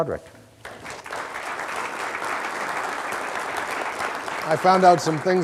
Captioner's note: audience applause